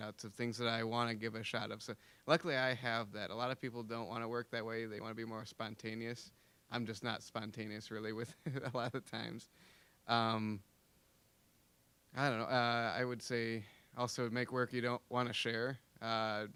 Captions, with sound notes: of things that I wanna give a shot. So luckily, I have that. A lot of people don't wanna work that way. They wanna be more spontaneous. I'm just not spontaneous, really, with a lot of times. (chuckling) I don't know. I would say, also, make work you don't wanna share.